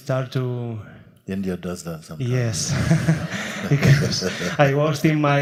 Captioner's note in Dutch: lacht